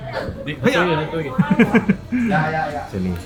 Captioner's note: laugh